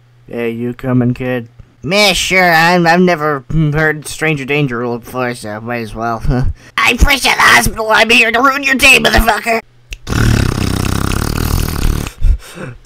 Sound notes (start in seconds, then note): 9.9 teeth chattering